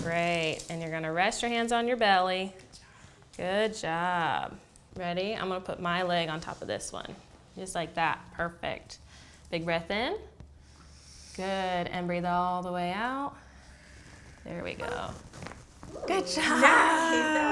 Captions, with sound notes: Great. And you're going to rest your hands on your belly. Good job. Ready? I'm going to put my leg on top of this one. Just like that. Perfect. Big breath in. Good. And breathe all the way out. There we go. [Popping sound] Good job!